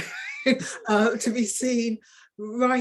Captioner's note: woman chuckling